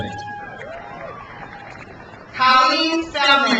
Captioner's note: crowd cheers